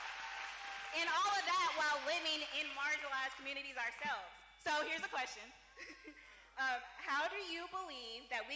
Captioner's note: cheering